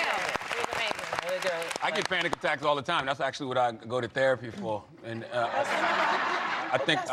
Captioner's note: applause